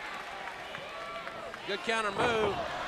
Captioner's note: crowd cheering